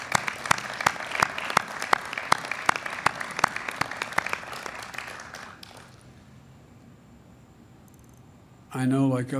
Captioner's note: applause